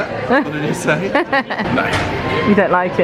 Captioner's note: laughing